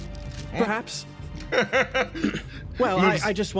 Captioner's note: laugh